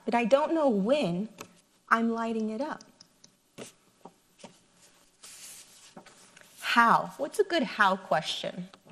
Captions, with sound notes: but I don't when I'm lighting it up. (paper rustles) how, what's a good how question?